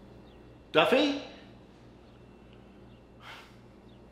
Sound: sighs

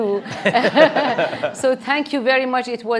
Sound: audience laughing

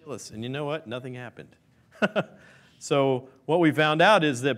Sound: chuckles

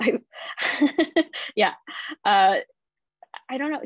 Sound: laughter

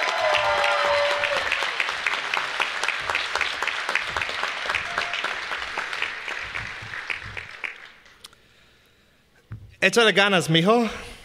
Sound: applause

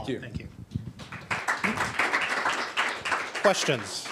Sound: applause

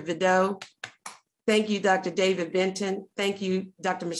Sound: claps

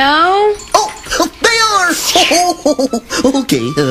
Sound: chuckles

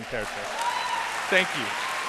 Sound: applause

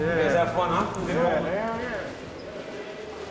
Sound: chatter

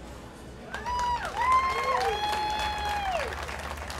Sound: crowd cheers

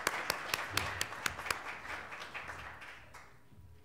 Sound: applause

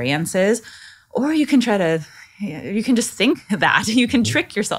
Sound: laughing

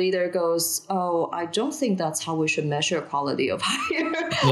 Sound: chuckling

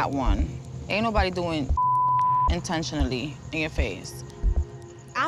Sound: beep

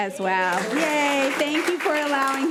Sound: committee applauding

